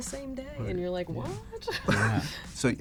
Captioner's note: laughs